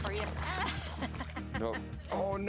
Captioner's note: laughs